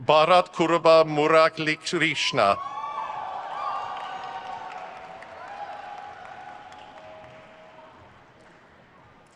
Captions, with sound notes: Bharath Kuruba Muralikrishna. (crowd cheers)